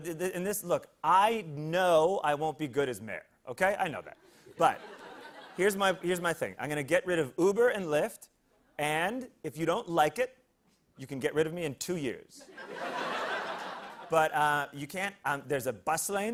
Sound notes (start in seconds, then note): 12.4 laughter